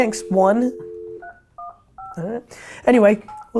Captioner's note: phone dialing